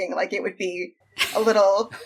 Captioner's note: laughing